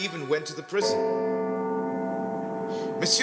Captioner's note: bell tolls